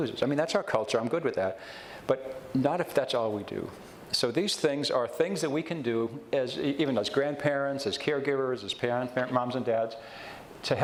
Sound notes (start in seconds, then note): none